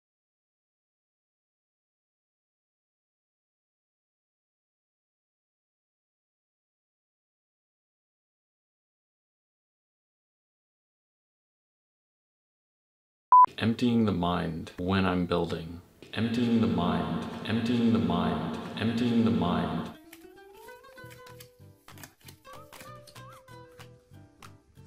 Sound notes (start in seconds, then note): 16.0 echoes; 19.8 flicking